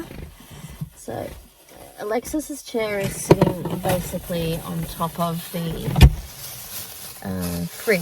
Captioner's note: velcro ripping noise; plastic bag rustles